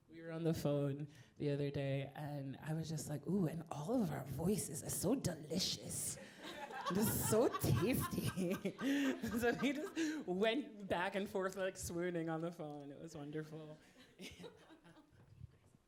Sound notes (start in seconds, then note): 9.0 laughing; 14.1 laughing